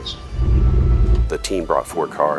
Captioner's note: track Sounds